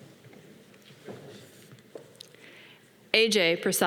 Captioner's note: footsteps tapping